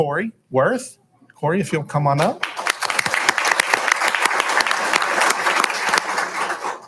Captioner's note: applauding